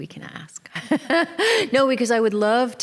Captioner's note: laughter